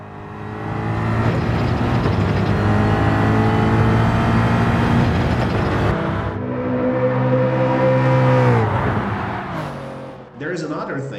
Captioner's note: engines revving, cars noises